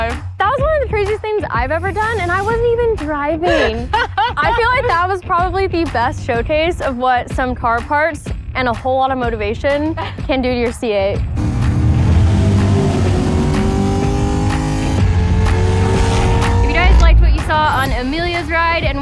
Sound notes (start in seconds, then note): 3.4 Emelia laughs; 11.5 upbeat music